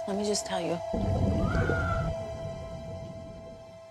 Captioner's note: woman screams